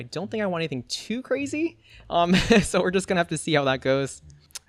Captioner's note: laughs